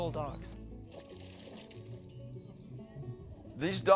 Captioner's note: water splashing